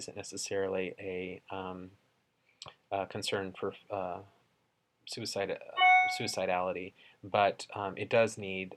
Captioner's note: computer chimes